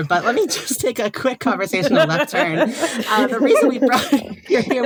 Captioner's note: all laughing